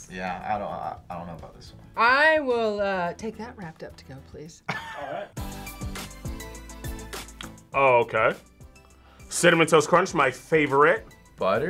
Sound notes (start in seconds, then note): 4.6 laughs; 5.9 upbeat music